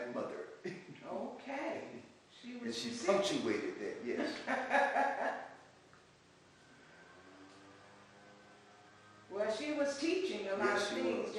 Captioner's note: laughs